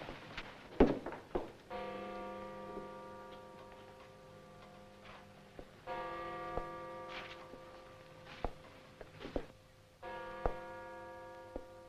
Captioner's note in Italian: rintocchi di campana